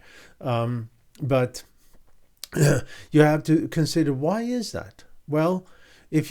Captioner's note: clears throat